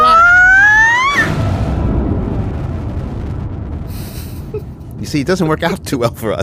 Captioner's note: screams; explosion